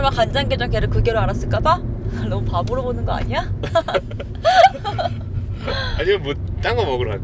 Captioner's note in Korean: 웃음